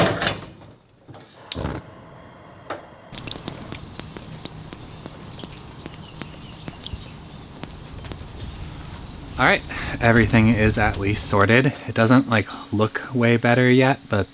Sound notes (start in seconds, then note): 2.1 flames burst